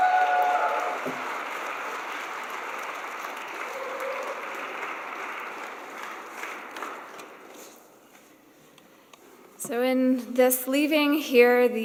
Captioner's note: cheers and applause